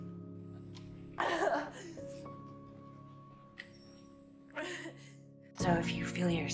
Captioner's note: Serena starts crying; voiceover